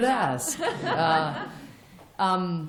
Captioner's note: laughter